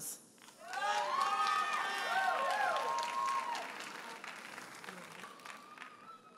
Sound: audience cheers and applauds

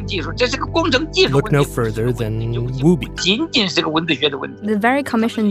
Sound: speaking Mandarin; speaking Mandarin

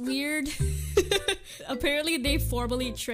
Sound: hehehehe

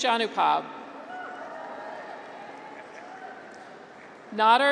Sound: graduates cheer

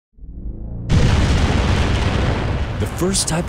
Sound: sound of giant explosion

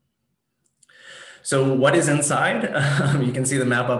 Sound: chuckles

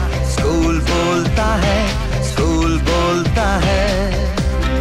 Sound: none

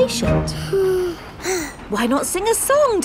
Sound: both sigh

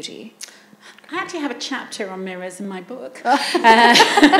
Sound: laughs

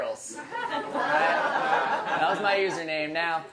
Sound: audience laughs

